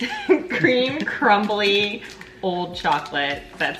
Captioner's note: laughing quietly